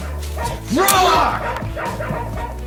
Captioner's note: Toto barking; lion roars